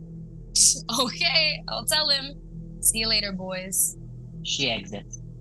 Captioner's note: chuckling